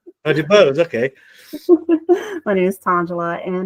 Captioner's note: laughs